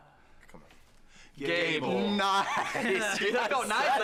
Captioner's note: laughter